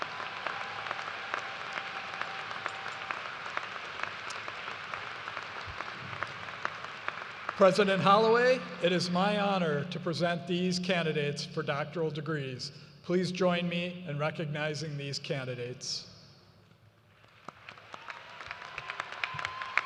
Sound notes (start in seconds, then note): 4.6 cheers and applause